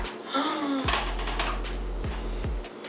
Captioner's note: gasps